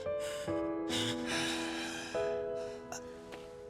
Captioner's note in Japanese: 息をのむ音